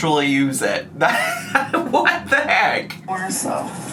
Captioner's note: laughs